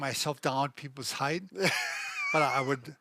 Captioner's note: laughing